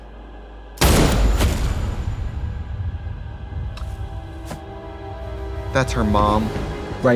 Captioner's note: dramatic music; gunshot fires